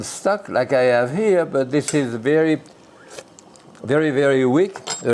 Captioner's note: sips